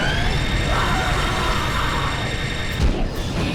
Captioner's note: gol screams